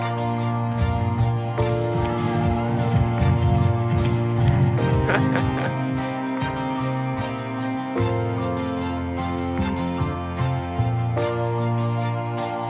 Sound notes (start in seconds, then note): 0.2 background music; 0.2 loud music; 4.4 laugh; 6.6 background music